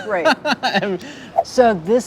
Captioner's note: chuckles